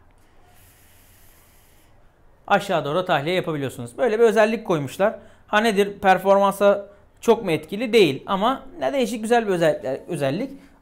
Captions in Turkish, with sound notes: ( nargile sesi ) aşağı doğru da tahliye yapabiliyorsunuz. Böyle bir özellik koymuşlar. Ha nedir? Performansa çok mu etkili? Değil ama yani değişik, güzel bir özellik.